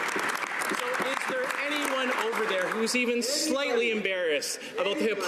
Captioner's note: some Applause